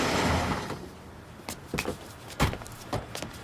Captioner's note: engine shuts off; tires screech; car doors close